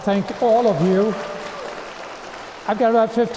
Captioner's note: applause